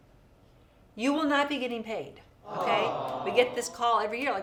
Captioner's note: people awwing